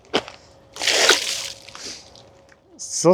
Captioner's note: water splashing